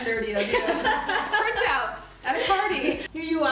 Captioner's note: laughter